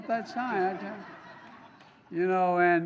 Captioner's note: laughter